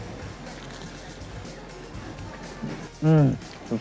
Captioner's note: food crunching